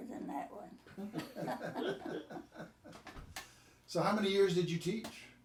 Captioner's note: group chuckling